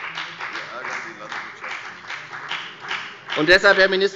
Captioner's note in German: Beifall bei der FDP